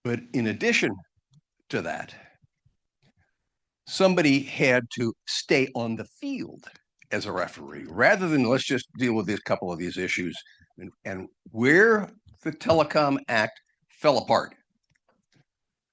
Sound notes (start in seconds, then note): none